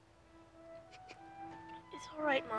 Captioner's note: Connie crying